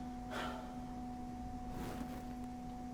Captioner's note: sighs